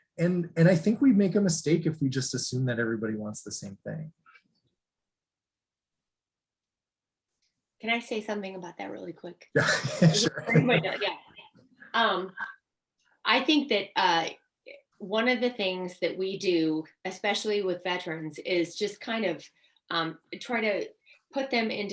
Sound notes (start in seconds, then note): 9.5 laughs